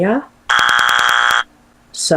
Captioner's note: wrong answer sound effect